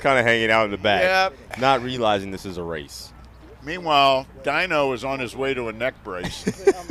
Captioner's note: laughter